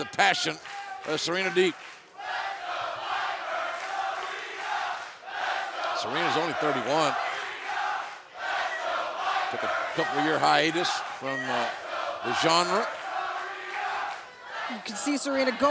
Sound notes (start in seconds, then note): 3.0 fans chanting